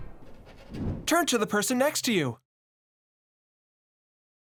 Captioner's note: male voices